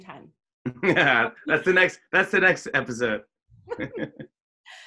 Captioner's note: laughs